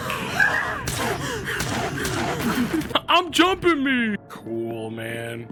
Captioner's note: fake panting